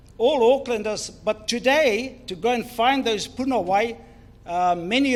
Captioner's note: foreign Language